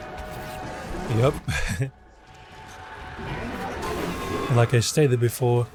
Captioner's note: laughs